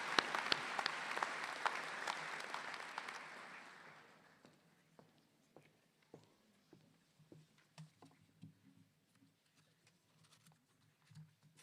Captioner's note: alause